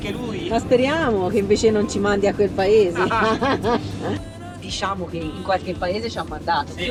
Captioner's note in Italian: risate